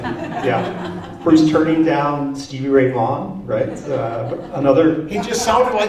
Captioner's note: laughter; laughter